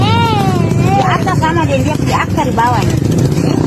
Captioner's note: indonesian dialogue continues